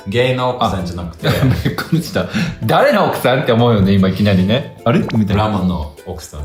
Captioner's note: laughs